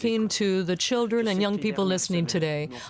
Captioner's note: speaking French